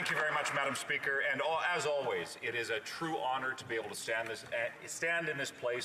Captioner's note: some Applause